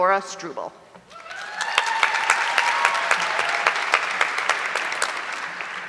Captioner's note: audience cheering